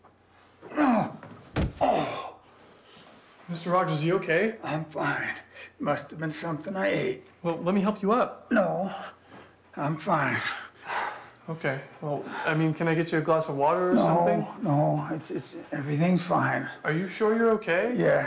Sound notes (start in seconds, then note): 0.7 Josiah grunts